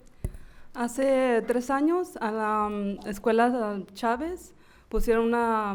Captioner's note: speaking in foreign language